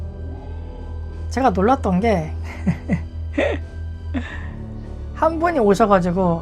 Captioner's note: laughs